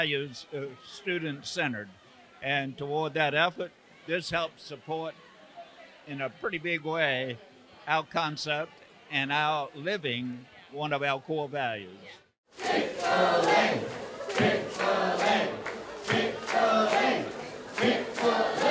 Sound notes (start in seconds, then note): 12.5 crowd